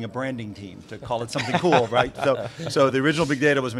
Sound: laughs

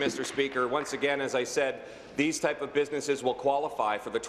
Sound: applause

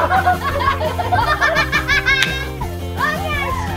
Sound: everyone laughing

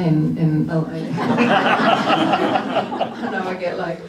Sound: laughter

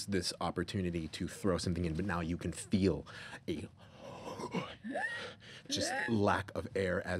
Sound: gasping

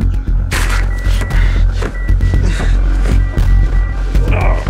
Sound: beeping; grunting

